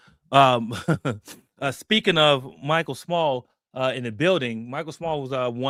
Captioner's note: laughs